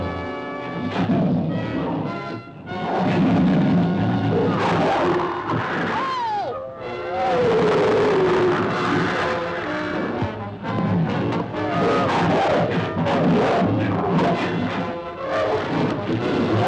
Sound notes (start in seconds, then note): 6.8 animals bellowing; 6.8 dramatic music